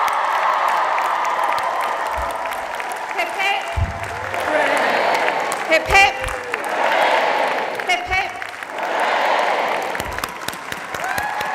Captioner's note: applause and cheers